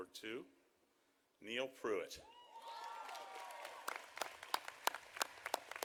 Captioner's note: audience applauding